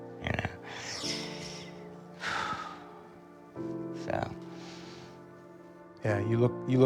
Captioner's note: sighs